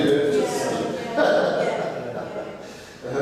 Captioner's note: joint laughter